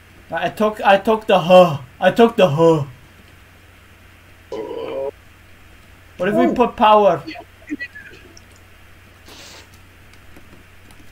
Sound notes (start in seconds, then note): 9.2 electricity sounds